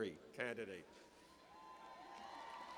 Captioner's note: cheers